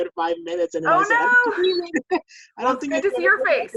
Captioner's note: laugh